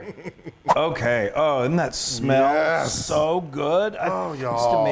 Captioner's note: laugh